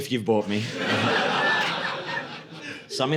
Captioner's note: audience laughing